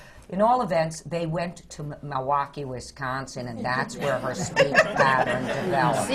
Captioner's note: laughter